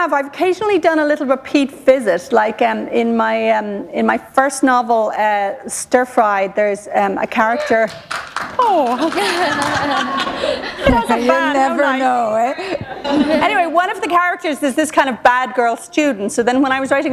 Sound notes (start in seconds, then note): 7.8 applause; 8.9 laughter